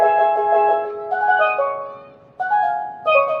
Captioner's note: distant children chattering; steelpan percussion